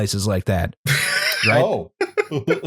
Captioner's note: laughs, surprised; laughter